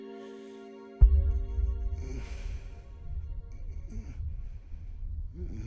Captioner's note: bad dream and hard breathing